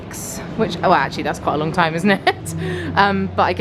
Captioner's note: laughs